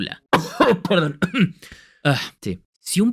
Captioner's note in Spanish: sonido de tos